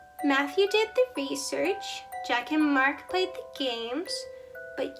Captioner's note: none